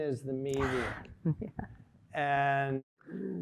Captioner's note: chuckling